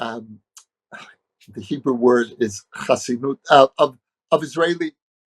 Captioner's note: speaking hebrew